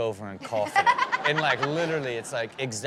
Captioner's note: Chanel laughs